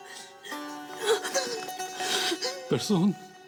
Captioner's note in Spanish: Sollozos